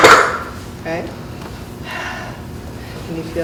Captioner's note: exhales